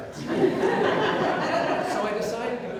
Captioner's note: audience Laughter